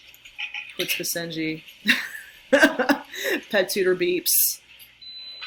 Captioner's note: laughing